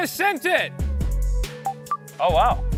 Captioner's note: shouting; Quick Share noises